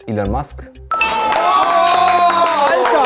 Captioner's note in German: Jubel, Applaus